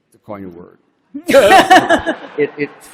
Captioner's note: laughter